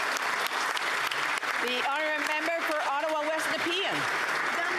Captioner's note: some Applause